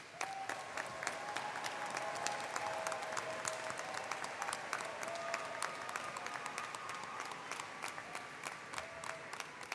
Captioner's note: cheering